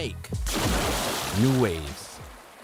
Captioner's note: water splashes